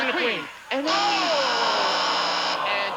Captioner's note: buzzer sounds